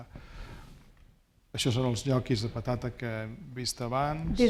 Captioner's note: speaking spanish